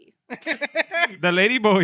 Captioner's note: laughing